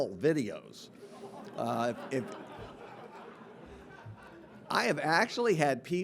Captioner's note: audience laughing